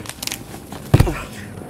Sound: slam!

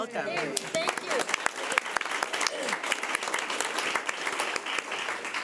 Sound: people clapping

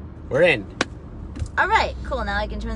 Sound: hands clapping

